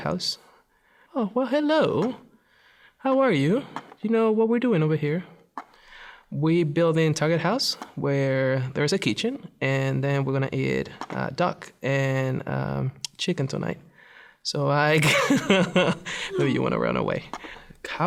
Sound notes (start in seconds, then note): 15.0 laughs